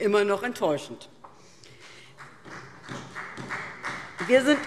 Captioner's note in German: Beifall SPD